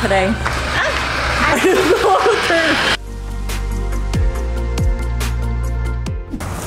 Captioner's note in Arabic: يضحك